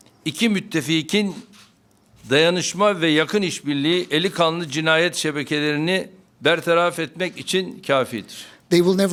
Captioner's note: speaking Turkish